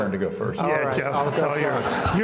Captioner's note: laughs